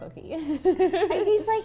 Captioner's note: laughing